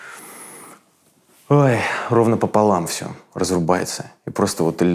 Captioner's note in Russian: вздыхая